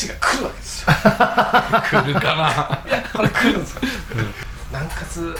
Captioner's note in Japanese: 笑い